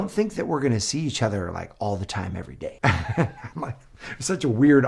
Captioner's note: laughs